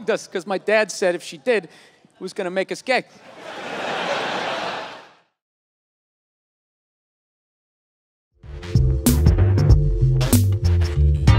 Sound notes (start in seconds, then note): 3.2 crowd laughs